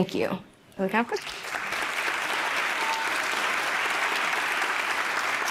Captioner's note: audience applauding